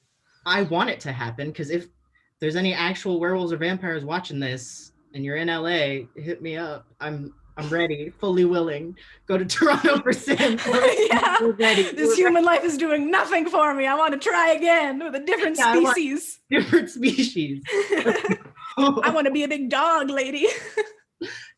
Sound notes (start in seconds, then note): 12.2 laughing; 17.6 both laughing